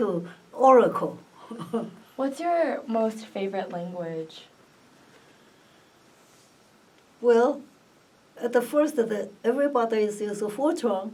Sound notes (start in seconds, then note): 0.8 laughs